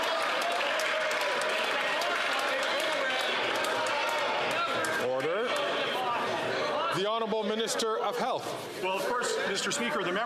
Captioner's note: some Applause